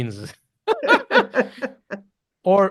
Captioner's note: laughs